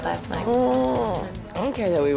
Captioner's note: groaning